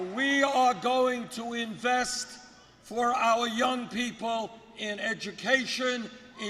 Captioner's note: crowd cheering